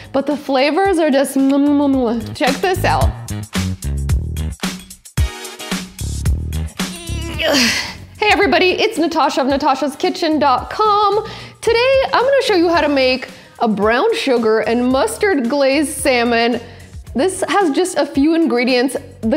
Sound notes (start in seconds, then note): 3.3 light rhythmic music; 6.9 sighs deeply